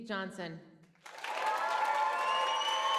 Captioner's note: applause